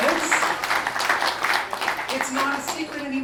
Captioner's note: applause